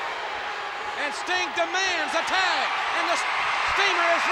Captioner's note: crowd cheers